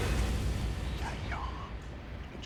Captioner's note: whispering